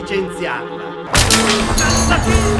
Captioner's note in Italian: Porta che si sfonda, grida e musica festosa